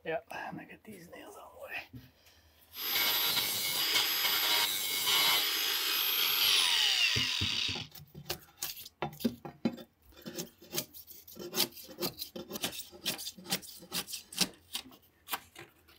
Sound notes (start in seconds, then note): 2.7 tool whirring